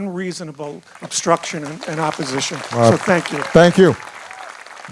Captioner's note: applause